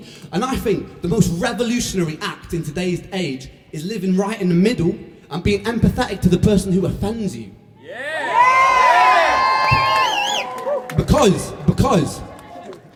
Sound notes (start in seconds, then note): 7.8 cheers